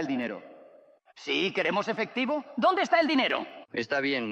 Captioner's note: townsfolk clamoring